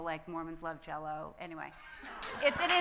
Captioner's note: audience laughing